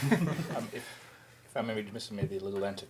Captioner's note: panelists laughing